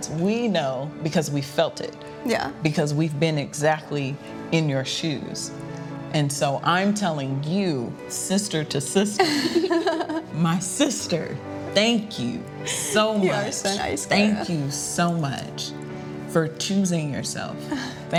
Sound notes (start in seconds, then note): 9.2 chuckling